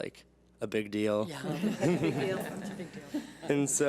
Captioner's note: laughs